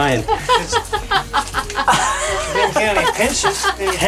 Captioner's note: laughs